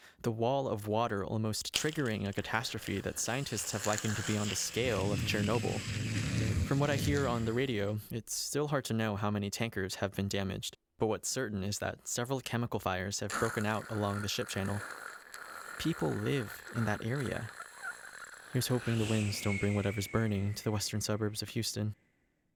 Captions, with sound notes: the wall of water almost triggering a catastrophe that scientists have likened to be on the scale of Chernobyl. (an explosion rages) From what I hear on the radio it’s still hard to know how many tankers have been damaged, but what’s certain is that several chemical fires have broken out along the Ship Channel. (fires burn) People live in that area. Here’s hoping the winds don’t bring whatever’s burning to the western suburbs of Houston.